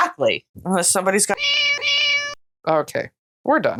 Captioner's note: meow